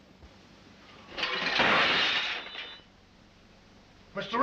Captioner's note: cutlery clanking